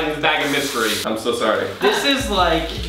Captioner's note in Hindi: प्लास्टिक crinkling